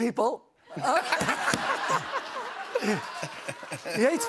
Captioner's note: laughter